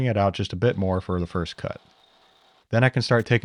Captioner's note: drill whirring